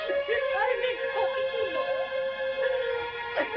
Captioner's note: sobbing